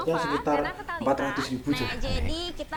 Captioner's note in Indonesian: Suara TV menyala